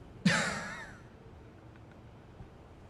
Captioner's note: laughing